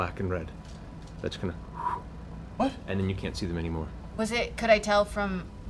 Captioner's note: whoosh